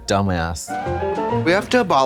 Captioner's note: bright chime